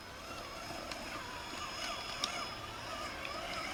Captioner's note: engine roaring